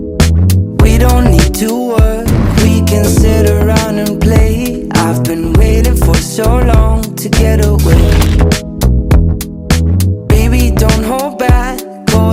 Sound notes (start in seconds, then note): 8.4 camera shutter clicks